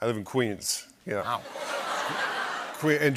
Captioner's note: laughter